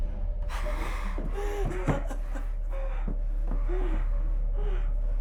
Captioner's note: Sue sobbing over muffled heavy breathing; Tina whimpers